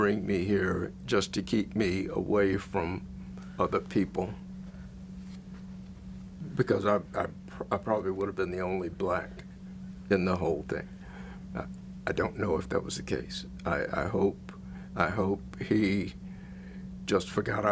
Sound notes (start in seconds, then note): none